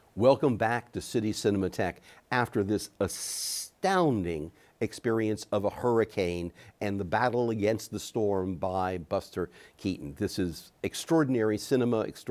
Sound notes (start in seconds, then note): none